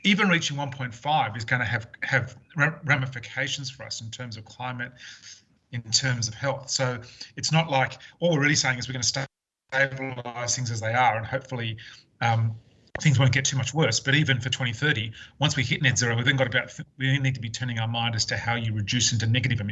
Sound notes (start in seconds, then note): 9.7 audio distorts